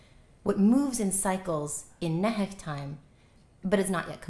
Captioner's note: non-english